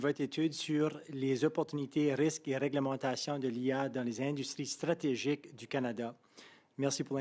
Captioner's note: speaking French